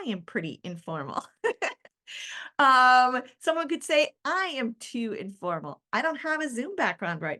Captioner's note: chuckles